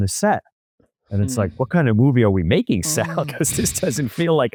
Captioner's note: laughs